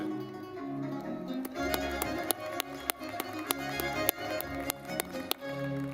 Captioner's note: lively music; audience clapping